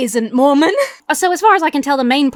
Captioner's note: laughs